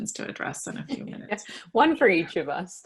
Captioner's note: laughs